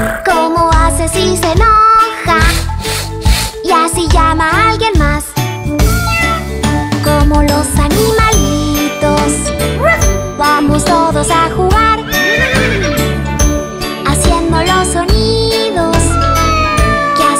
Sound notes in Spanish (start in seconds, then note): 5.8 Maullido; 9.3 Ladrido; 12.0 Sonido de relincho; 16.0 Maullido